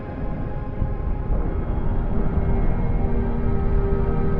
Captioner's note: thunder rumbles